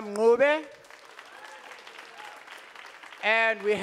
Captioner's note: audience applauding